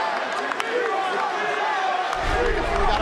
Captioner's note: cheers & applause; fans chanting